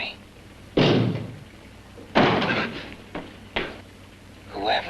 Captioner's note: knocks twice